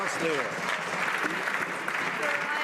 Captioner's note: some Applause